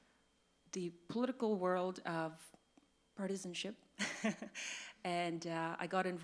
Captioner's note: laughs